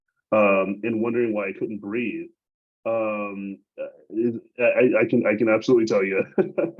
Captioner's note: laughs